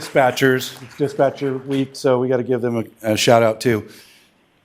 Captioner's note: applause